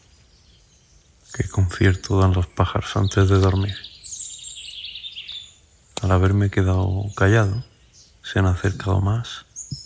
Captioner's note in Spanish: Pájaros